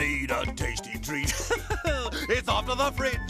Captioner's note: laughing